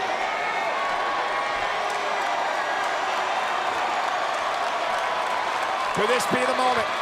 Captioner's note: applause